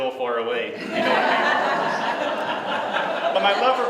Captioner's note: laughter